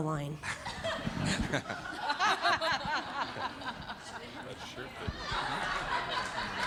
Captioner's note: audience laughing; cast laughing